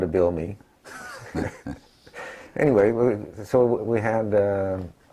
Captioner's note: laugh